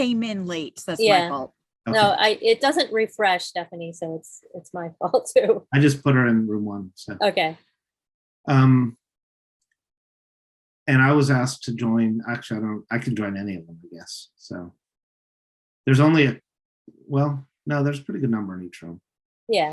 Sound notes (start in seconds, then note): 5.2 chuckles